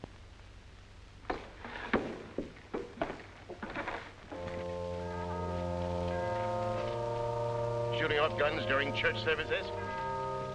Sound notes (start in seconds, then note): 5.1 bell ringing